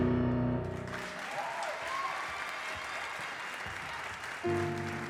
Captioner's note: audience applause